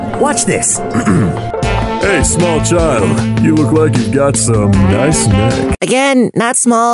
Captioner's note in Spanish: Voz seductora